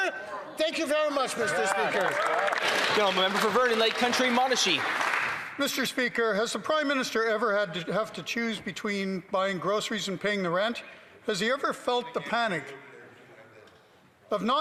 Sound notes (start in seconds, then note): 5.6 applause